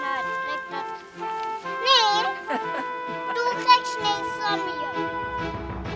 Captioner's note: girl speaking foreign language